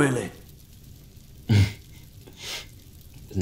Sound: chuckle

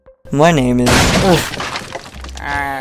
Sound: big Crash Sound

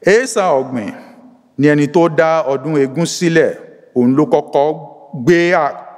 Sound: speaks in Yoruba language

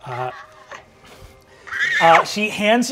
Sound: shrieking

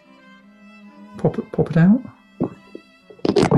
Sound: quietly; clattering

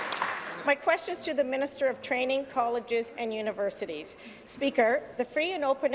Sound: applause

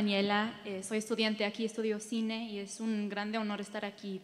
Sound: speaking in Spanish

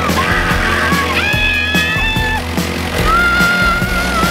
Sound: screaming

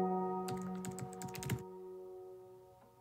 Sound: typing

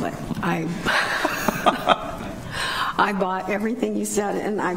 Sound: laughs

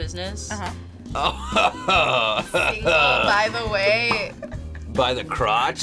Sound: laughs

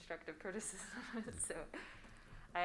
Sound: laughs

